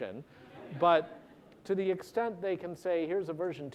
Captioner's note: laughter